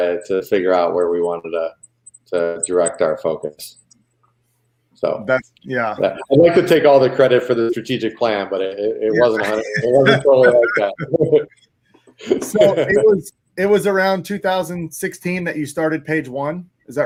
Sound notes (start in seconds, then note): 9.2 all laughing